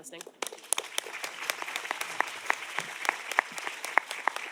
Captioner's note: audience applauding